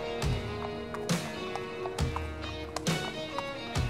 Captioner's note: hooves clomping